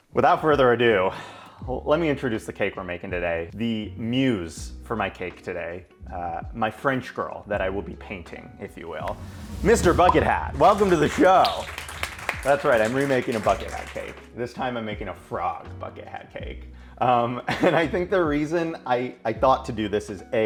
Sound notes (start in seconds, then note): 11.8 audience clapping; 17.2 laughs